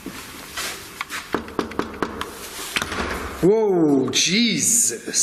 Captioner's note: slamming door; knocking on door